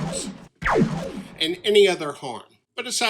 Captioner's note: laser sound